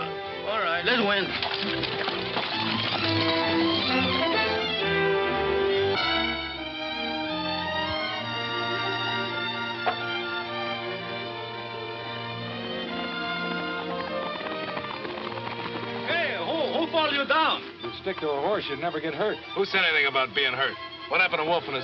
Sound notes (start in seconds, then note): 5.4 gentle orchestral music; 12.8 horse hooves clomping